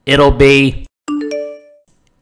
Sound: phone Blings

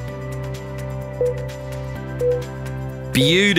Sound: timer beeping

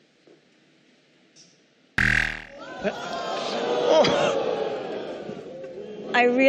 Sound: buzzer sounds

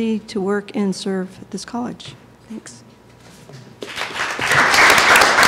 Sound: applause

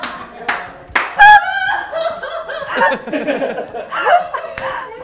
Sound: laughter

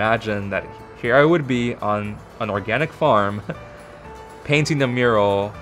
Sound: laughs

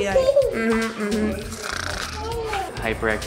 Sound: snoring

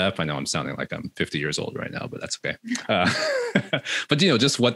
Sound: laughs

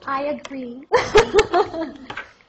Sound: laughter

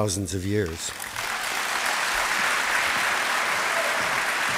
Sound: applause

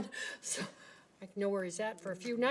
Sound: laughing

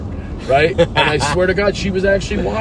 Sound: laughs

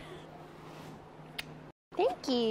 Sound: kissing

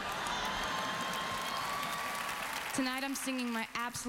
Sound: audience cheering, laughing

